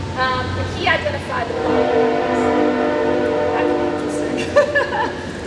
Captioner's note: train horn